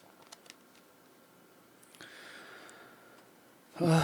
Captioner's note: sigh